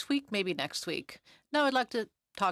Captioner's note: speaking French